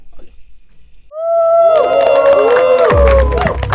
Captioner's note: Students hooting, clapping